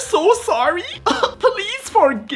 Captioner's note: cough cough